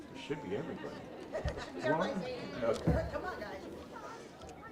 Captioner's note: woman laughing